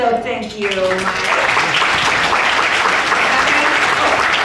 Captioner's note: audience applauding; audience applauding drowns out speaking